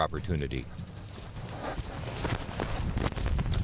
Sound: grass crunching

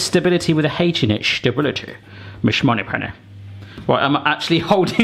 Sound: speaks in foreign language

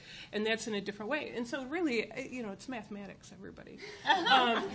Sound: chuckles

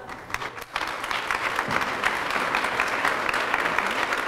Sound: applause

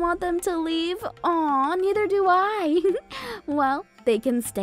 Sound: giggling

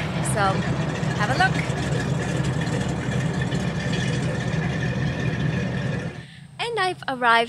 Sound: boat engine sounds

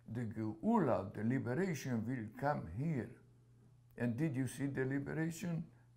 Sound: hebrew

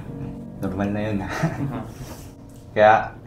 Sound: laughs

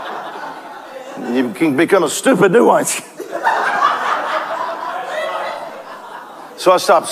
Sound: congregation laughs

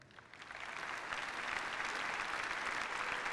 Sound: applause

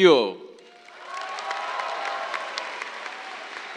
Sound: cheers, applause

